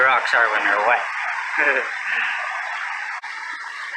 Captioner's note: chuckles